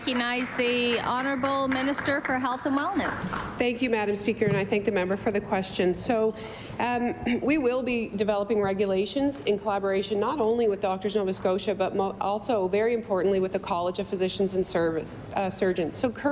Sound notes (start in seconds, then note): 3.9 applause